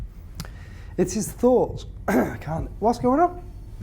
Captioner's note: clears throat